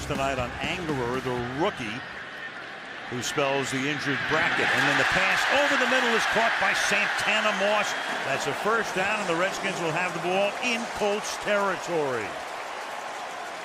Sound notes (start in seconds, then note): 5.1 cheering